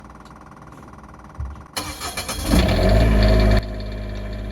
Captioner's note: generator revving